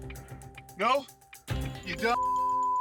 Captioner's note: beep